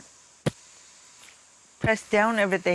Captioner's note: hand thumps